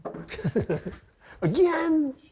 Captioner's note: chuckling